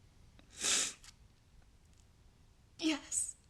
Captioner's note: Angelina sniffs